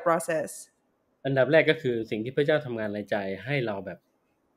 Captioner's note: speaks Thai